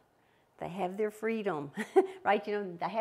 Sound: chuckles

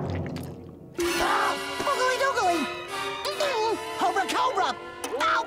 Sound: gasping

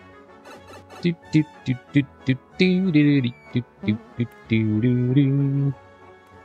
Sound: humming

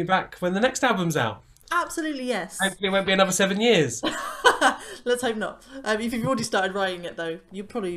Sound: laughter

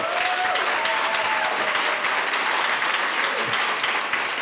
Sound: audience applauding

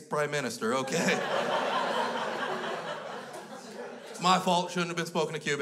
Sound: crowd laughs

